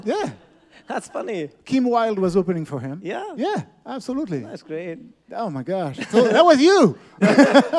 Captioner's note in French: rires; rires